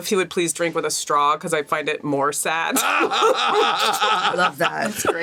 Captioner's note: laughing